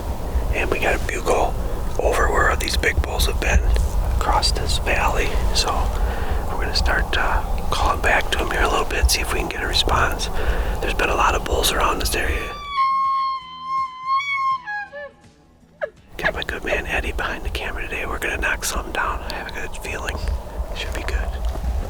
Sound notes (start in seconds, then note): 12.3 tube call bugling; 21.6 soft rock music